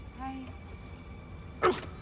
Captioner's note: Aboiement de chien